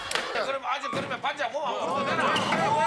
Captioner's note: bang